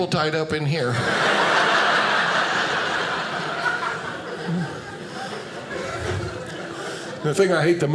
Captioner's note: audience laughing